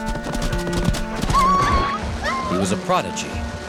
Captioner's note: whimpering